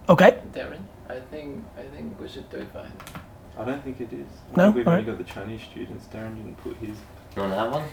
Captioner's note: background chat